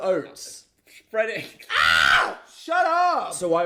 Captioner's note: screaming